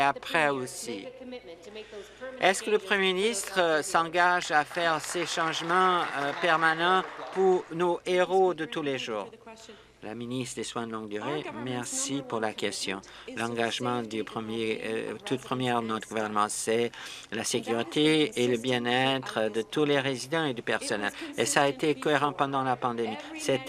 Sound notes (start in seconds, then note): 7.8 applause